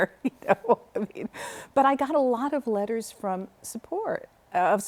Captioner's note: laughter